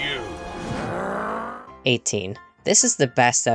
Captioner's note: growls